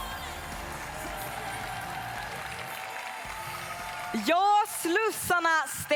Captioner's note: applause